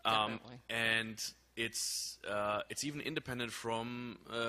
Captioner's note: voiceover